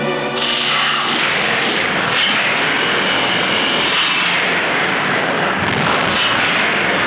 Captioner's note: eletricidade crepita; explosão ruge